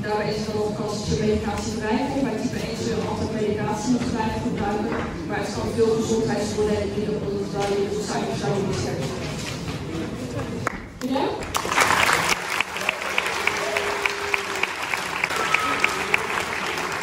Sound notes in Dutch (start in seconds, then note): 11.4 applaus